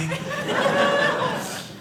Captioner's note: audience laughing